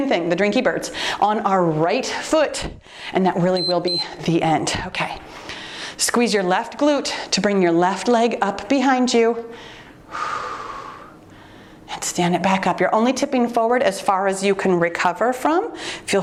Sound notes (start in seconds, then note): 3.5 timer beeps; 9.5 exhales deeply